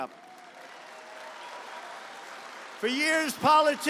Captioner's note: applause